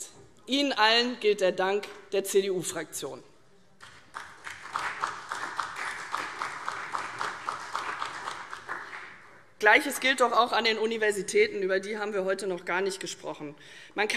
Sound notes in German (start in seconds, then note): 3.8 Beifall CDU